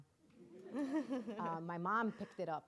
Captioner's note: audience laughing